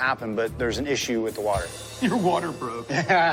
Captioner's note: both laugh; laughing